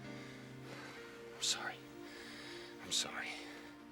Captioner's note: sighs